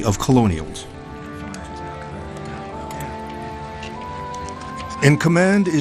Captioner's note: soldiers chattering